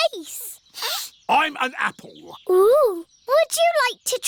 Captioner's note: sniffs